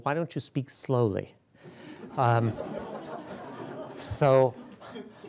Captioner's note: laughter